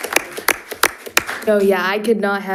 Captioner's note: audience applauding